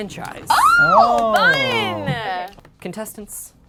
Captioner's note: cheering